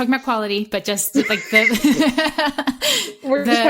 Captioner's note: laughter